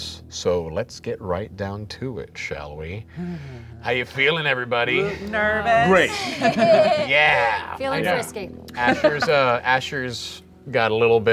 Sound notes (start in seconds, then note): 4.9 groaning; 5.8 laughing